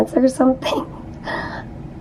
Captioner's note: chuckling